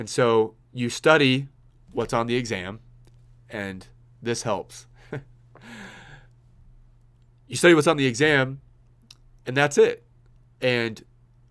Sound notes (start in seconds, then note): 5.0 laughs